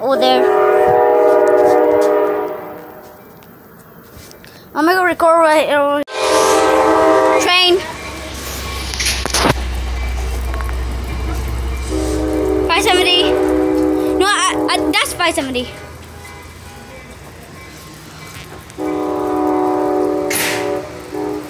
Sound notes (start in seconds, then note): 0.0 more loud horns; 6.0 loud train horn; 11.2 more train horns